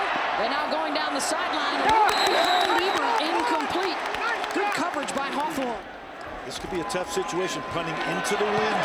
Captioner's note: applause